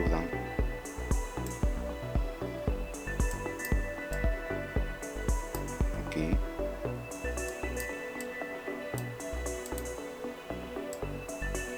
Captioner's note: typing